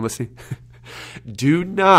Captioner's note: laughs